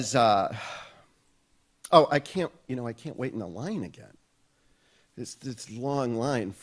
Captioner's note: sighs